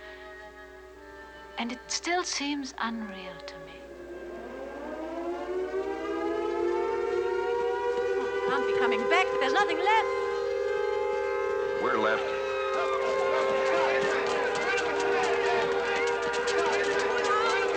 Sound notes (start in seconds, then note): 4.7 air Raid Sirens Blaring